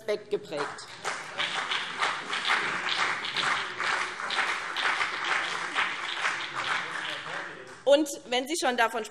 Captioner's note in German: Beifall BÜNDNIS 90/DIE GRÜNEN und CDU